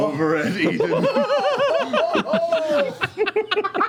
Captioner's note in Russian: смех